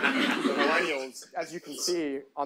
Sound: audience laughs

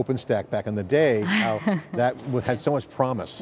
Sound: chuckles

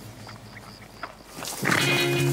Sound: horse hooves & birds chirping

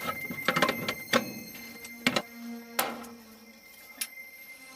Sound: ominous music playing; clattering sound; ominous music playing

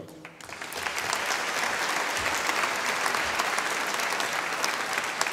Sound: audience applauding

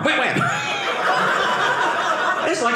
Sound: audience laughing

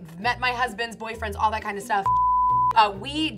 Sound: beep

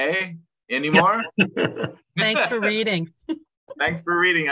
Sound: laugh

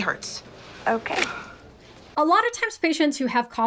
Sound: gloves snap

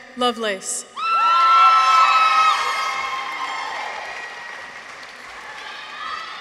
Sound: people cheer; audience applauds

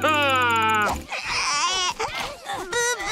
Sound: cooing

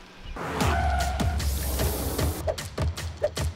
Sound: tires squeal; dramatic music

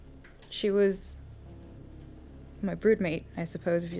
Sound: none

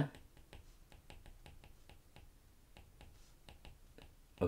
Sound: screen tapping

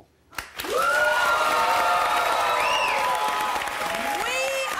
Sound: audience applauding

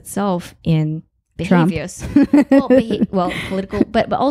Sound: laughing

